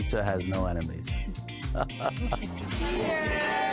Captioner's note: laughs